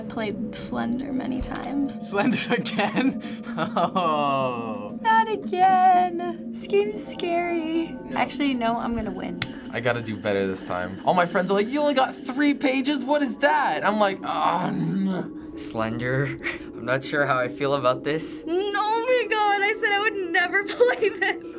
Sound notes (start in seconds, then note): 2.4 laughs